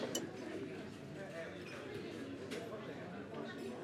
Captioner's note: crowd chattering